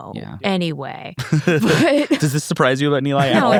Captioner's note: laughs